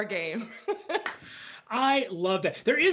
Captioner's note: both laugh